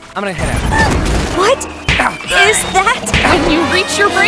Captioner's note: Jax in pain noises